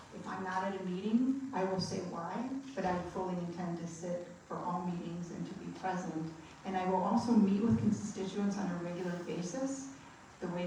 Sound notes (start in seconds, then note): none